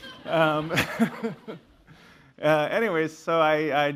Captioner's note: laugh